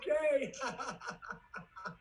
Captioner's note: laughs